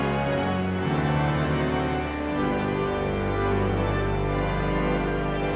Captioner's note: exhilarating organ music continues; audience chattering continues